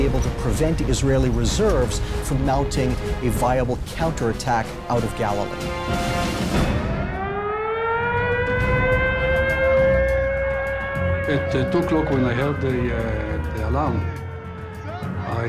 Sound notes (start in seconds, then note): 6.9 alarm blaring; 10.4 people screaming